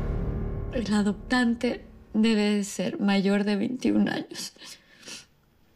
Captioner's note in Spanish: Sollozos